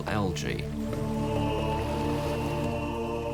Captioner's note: men chanting